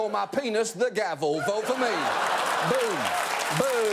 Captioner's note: audience laughing